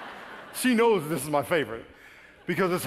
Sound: laughing

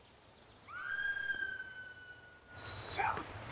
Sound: distant scream

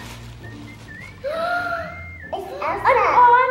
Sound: gasps

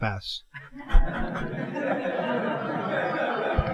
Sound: laughter

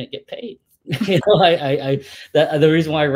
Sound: laugh

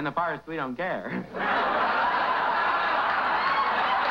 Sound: laughter

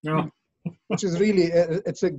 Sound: laughs

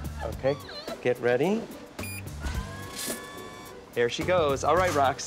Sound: machine beeps

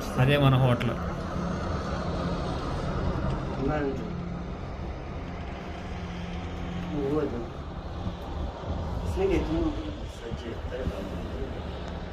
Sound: speaking foreign language

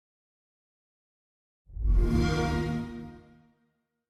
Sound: xbox sound

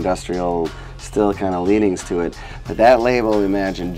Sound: none

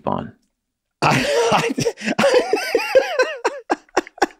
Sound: all laughing

